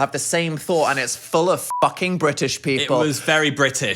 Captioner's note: beep